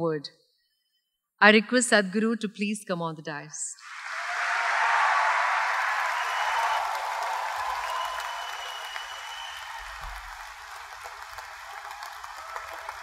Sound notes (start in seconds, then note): 8.2 cheers/Applause